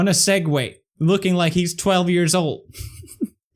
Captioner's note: giggles